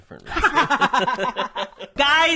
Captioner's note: laughs